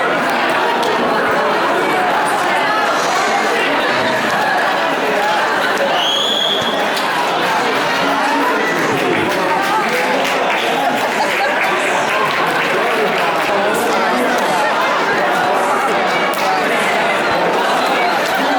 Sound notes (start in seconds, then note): 0.2 crowd chattering; 5.9 whistling; 7.7 crowd chattering; 15.6 crowd chattering